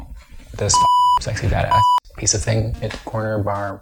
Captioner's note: beep